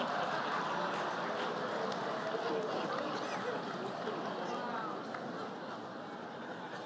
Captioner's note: laughter